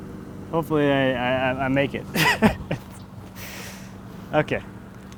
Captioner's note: laughing